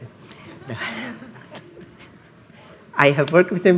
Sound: laughs

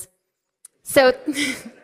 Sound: laughter

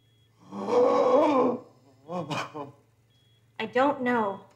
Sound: Donald gasps

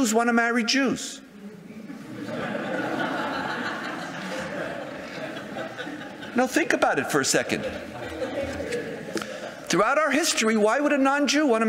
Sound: audience laughter

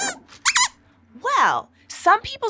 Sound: squeaks squeaks

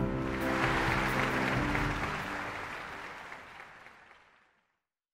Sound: audience applauding

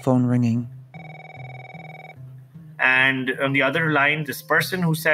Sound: cell phone ringing

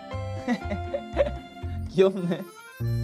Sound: laughs

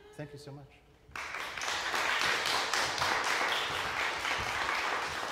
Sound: audience applauding

